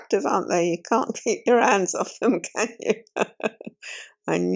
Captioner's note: laughs